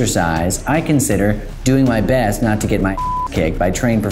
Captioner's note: beep